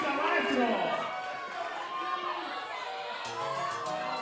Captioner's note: audience cheering